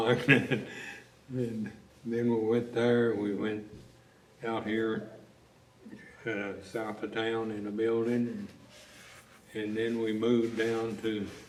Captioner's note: laughs